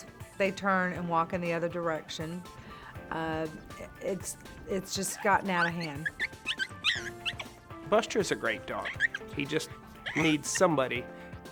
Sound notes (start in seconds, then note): 5.0 high-pitched barks